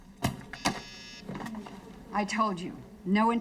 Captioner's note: phone buzzes